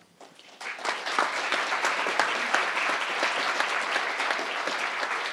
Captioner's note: crowd applauding